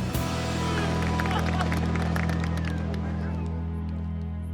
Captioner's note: clapping